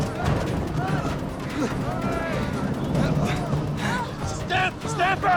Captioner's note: panting